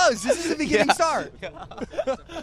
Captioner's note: laughs